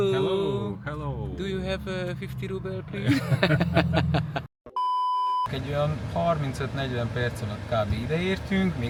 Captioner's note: laughter